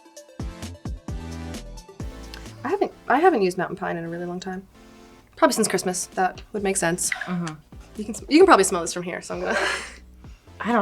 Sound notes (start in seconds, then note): 0.3 upbeat music; 6.7 cap clinking